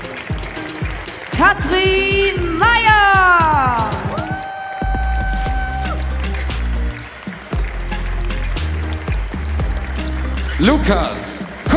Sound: applause; applause

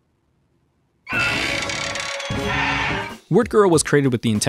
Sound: creaking

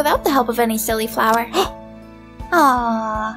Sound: gasp~

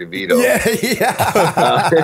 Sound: laughter

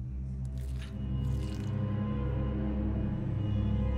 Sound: squelch

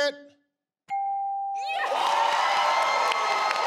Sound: bell chimes; audience applause

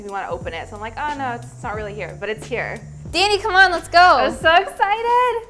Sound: none

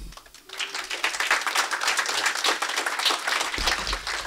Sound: audience applauds

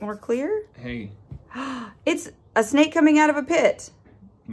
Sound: gasp

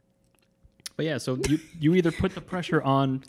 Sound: laughs

